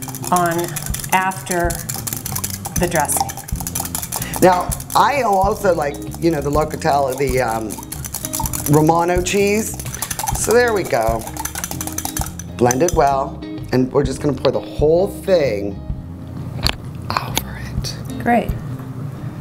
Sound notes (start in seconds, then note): 3.2 rattling; 11.7 rattling; 13.3 tapping